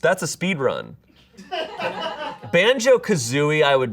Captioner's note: audience laughing